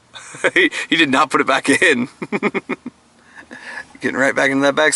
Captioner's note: laughs